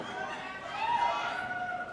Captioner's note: audience members cheering; audience member shouting